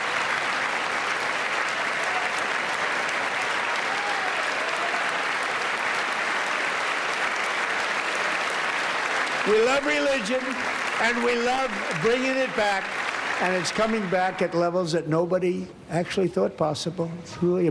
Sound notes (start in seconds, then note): 5.5 applause